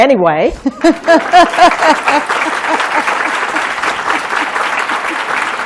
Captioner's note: applause